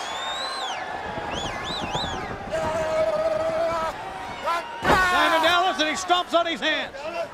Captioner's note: crowd chatter